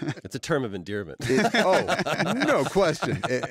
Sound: laughter

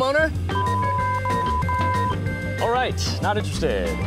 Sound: beeps

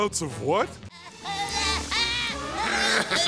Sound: laughing; moaning

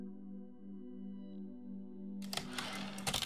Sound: typewriter slide return

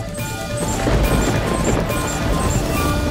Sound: thundering

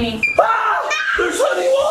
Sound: shrieking

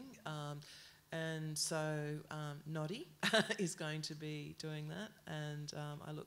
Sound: laughs

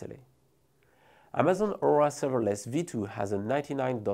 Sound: text whooshing

